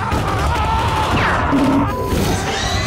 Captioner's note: gunfire